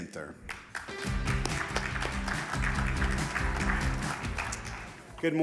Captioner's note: audience applauding; upbeat music